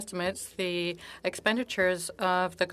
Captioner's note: speaking French